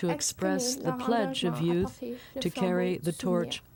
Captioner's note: speaking French